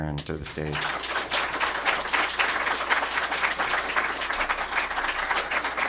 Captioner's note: applause